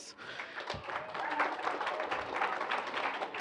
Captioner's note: applause